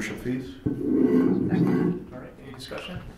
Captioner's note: microphone scraping